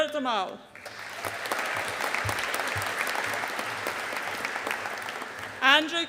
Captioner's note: audience applauding